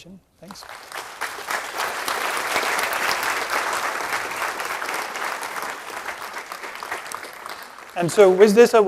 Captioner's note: applause